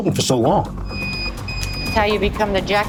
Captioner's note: beeping